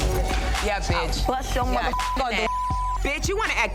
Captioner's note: overlapping chattering